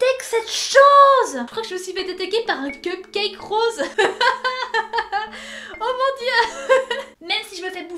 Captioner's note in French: Rires